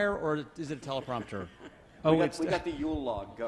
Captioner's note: laughs